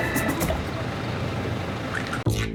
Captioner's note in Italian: Rumore di motore